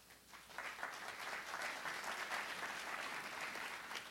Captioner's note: applause